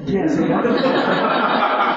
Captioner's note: laughter